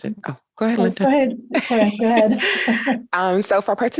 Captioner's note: laughter